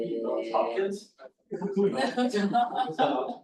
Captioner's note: laughter